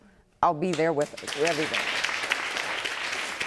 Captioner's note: applause